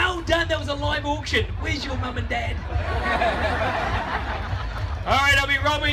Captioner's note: crowd laughs